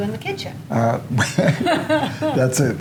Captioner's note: chuckling